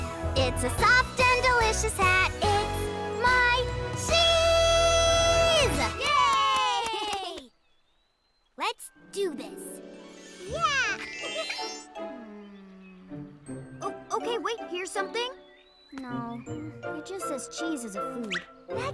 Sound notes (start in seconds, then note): 11.0 chuckles